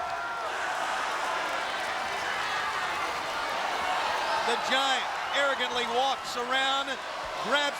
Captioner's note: applause